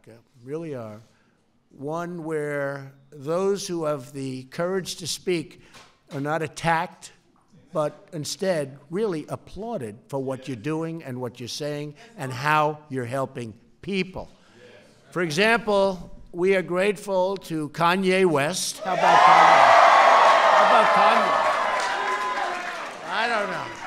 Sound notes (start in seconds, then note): 19.0 applause